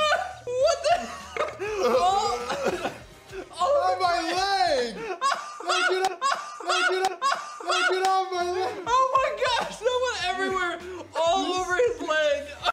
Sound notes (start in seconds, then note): 0.0 laughs again; 2.4 burps; 4.9 can't stop laughing